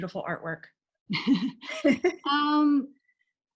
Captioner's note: both laugh